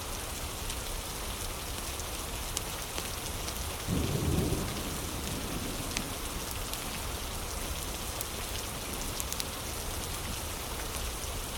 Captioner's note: fire crackling